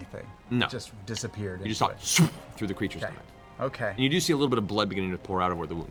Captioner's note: tearing noise